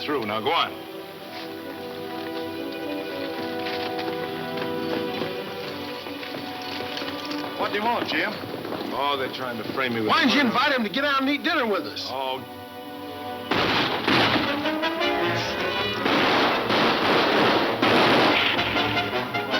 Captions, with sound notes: - What'd they want, Jim? - Oh, they're trying to frame me. Why'd you invite him to get out and eat dinner with us? - Oh. (guns shooting) (tense music) (guns shooting)